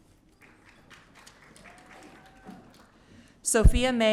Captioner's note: audience cheering